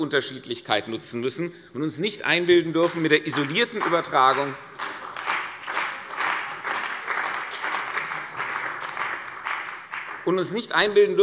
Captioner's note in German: Beifall bei der CDU und dem BÜNDNIS 90/DIE GRÜNEN